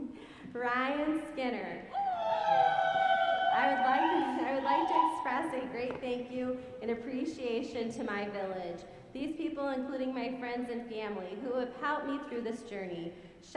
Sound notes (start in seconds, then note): 1.9 audience cheering